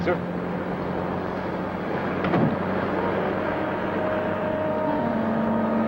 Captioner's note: door thuds close; suspenseful music